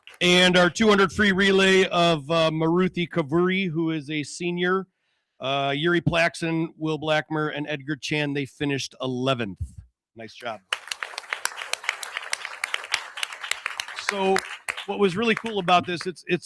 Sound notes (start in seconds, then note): 10.5 audience applauding